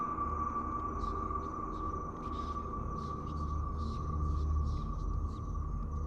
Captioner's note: ghostly voices whispering